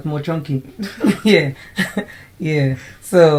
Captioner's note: laughter